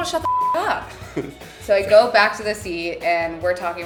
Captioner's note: laughing